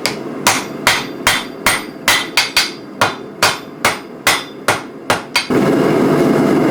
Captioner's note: hammering steel